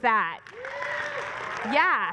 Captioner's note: applause